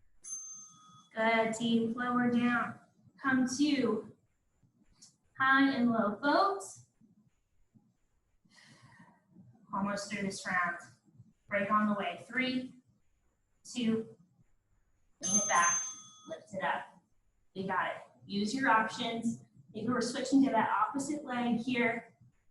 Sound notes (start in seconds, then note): 0.2 ding; 15.2 ding, ding